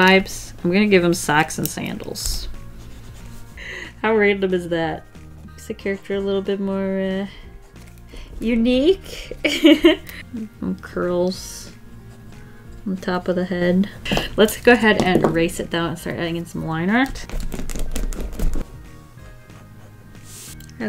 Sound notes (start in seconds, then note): 9.1 laughs; 17.3 eraser rolling